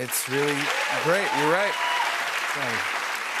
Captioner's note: cheers and applause